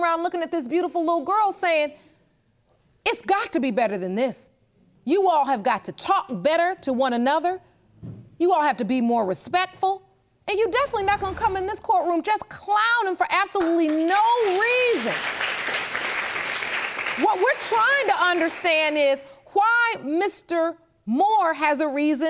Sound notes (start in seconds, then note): 15.1 audience applauds